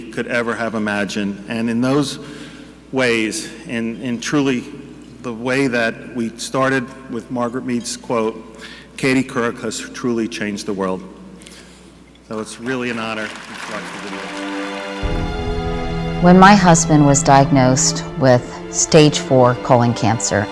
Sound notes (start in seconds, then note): 12.3 audience clapping; 13.6 slow melancholic music